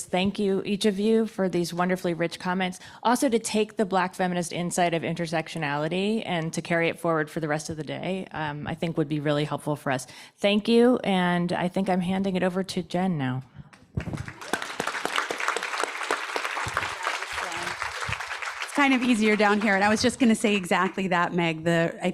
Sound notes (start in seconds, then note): 13.8 audience applauds